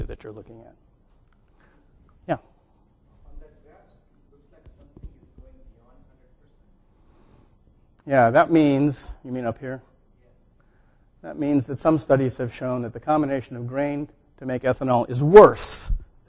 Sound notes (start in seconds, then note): 3.7 low voice on background